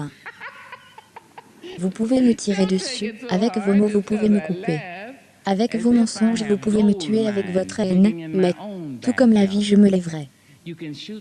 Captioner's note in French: des rires; Le public rit